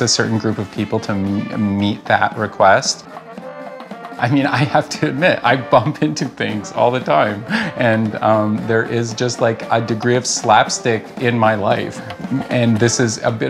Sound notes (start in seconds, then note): 7.4 laughing